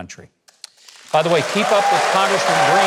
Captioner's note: audience applauding